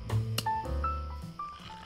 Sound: smack

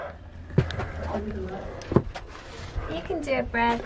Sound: heavy breathing

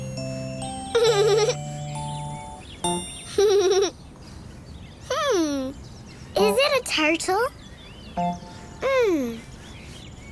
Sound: giggle

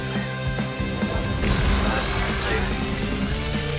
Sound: robotic voices

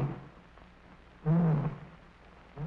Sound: lion roaring

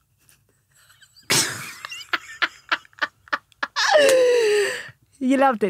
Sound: laughing

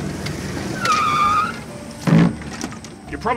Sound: whimsical Music; tires Squeal; cart Clatters

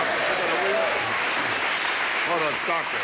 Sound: audience laughs

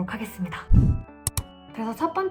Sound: click sound effect

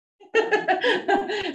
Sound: laughing

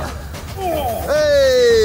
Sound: groans

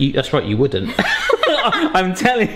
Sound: both chuckling

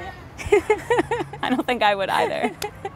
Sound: laugh

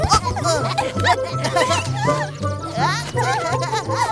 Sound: laughing

